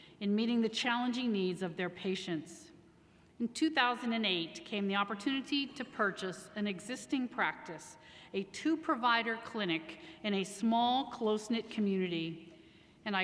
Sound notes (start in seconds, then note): none